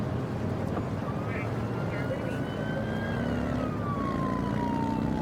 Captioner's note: siren blaring